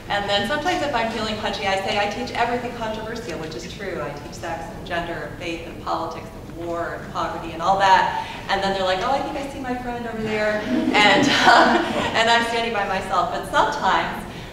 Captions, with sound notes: and then sometimes if I'm feeling punchy I say I teach everything controversial, which is true. I teach sex and gender, faith and politics, war and poverty and all that and then they're like oh I think I see my friend over there. (audience laughing) And I'm standing by myself, but sometimes